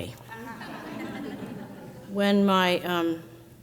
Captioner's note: crowd laughs